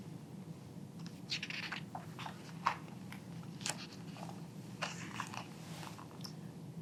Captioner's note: pages rustling